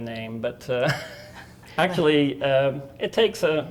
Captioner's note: laughing